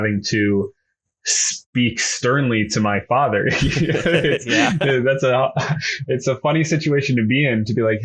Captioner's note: laughs